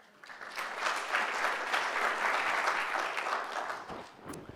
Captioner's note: applause